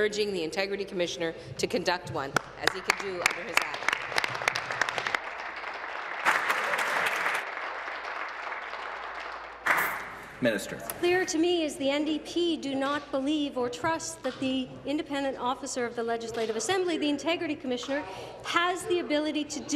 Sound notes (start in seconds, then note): 7.6 applause